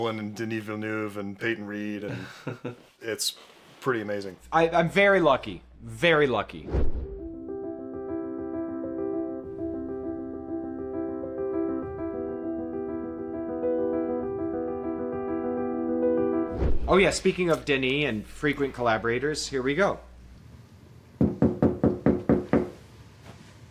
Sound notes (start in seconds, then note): 21.2 knocking on the door